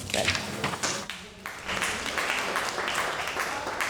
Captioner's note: applause